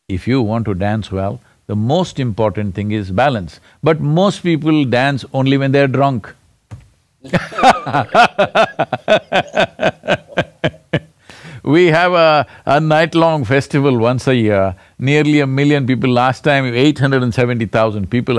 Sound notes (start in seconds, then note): 10.0 both laugh